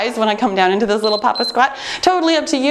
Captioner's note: timer beeps